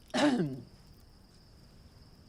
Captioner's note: Clive clears throat